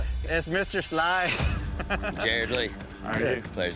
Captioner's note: chuckling